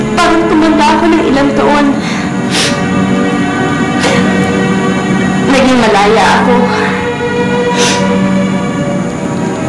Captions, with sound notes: it feels like I've aged a few years. [sniffles] [sobs] I became free. [sniffles]